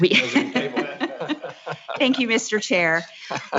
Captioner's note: laughs